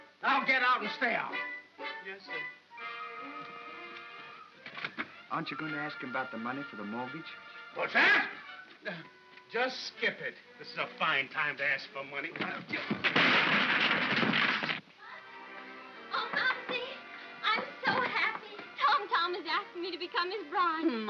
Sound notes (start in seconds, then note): 3.5 whimsical music; 12.4 crashing sound